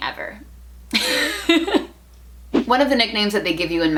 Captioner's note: laughter